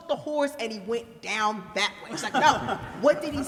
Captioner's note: laughter